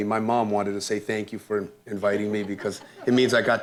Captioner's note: laughter